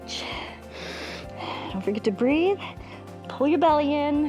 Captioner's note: inhales and exhales